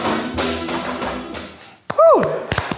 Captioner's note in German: Jubelruf